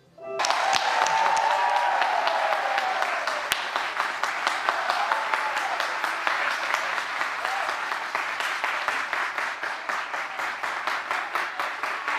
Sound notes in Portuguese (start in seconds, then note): 8.4 aplausos